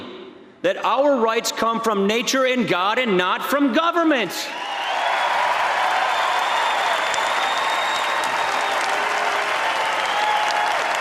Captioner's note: applause